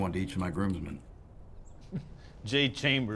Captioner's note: laughs